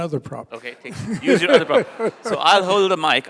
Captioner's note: laughs